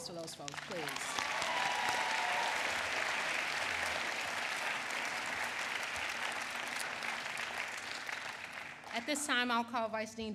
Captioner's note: applause